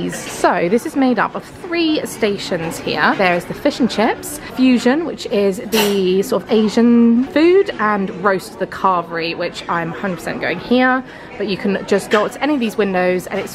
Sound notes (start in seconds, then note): none